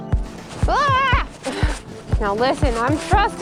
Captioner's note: screams